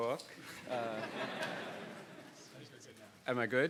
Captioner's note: audience laughing